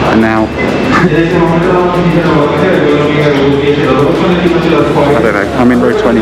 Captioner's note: announcement in foreign language